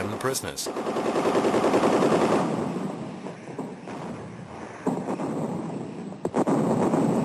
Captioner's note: guns blasting; heavy artillery booming